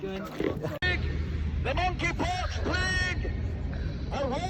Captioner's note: male voices; public announcer voice